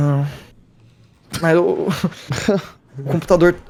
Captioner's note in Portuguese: risos